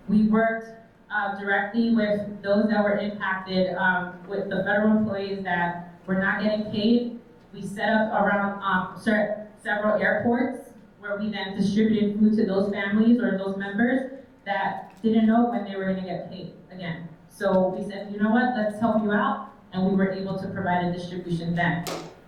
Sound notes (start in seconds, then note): none